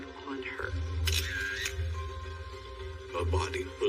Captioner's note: camera shututter clicks